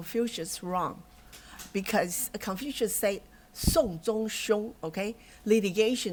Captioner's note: non-english speech